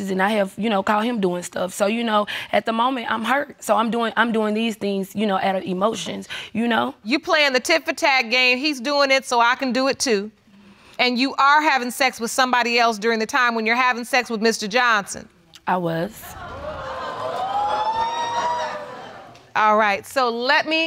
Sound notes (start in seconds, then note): 13.3 audience exclaiming